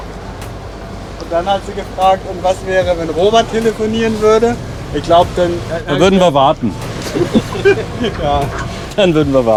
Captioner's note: laughter